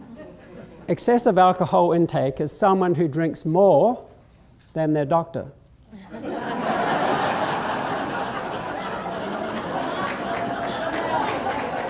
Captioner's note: laughter